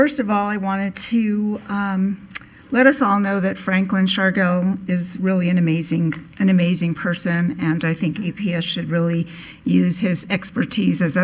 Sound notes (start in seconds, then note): none